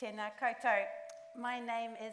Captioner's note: speaks in Māori